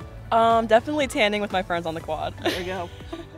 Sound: chuckles

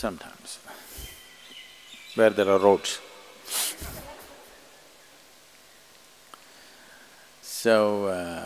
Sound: laughter

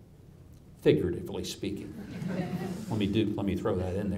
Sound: audience chuckles

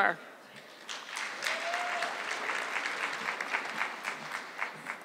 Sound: audience clapping

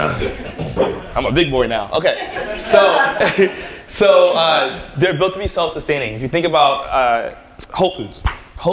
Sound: laughter

